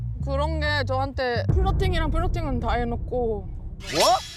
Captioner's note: sound effect: exposing the truth